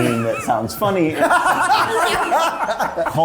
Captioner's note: cast laughing